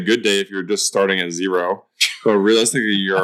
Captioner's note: laughs